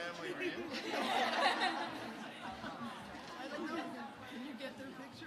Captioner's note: audience laughing